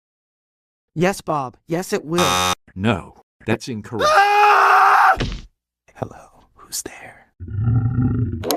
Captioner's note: screaming